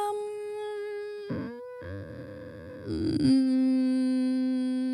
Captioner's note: moaning